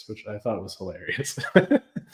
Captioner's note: laughs